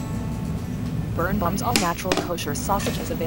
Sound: TV audio

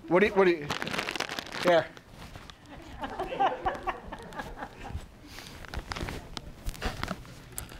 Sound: bag rustling, audience laughing

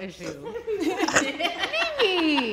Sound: all laughing

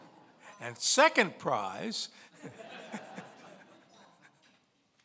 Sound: laughing; laughs

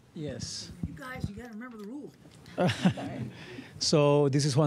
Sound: laughter

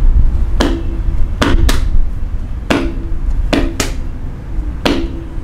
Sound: feet stomping rhythmically

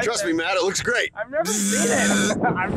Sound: buzzes; laughs

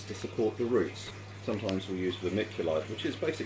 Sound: water trickling

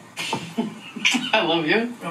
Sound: kisses

